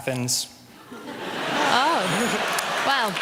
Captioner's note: applause